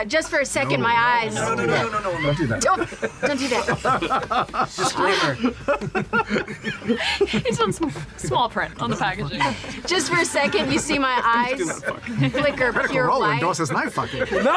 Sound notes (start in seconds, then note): 2.7 laughing; 3.2 laughter; 10.0 laughter; 13.8 laughter